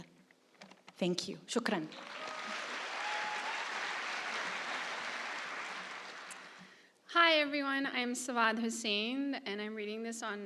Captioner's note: applause